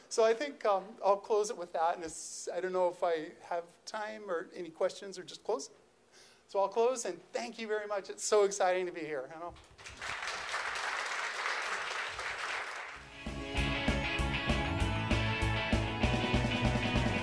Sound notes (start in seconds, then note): 9.6 crowd clapping; 13.0 light, fun rock beat